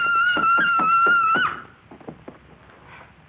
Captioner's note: screaming; thumping